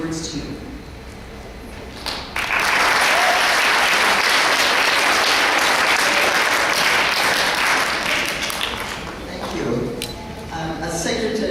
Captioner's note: audience clapping